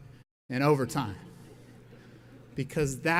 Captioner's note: audience laughs